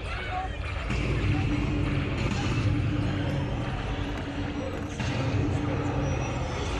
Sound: booming noises

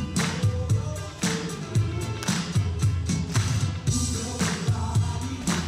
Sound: audience claps

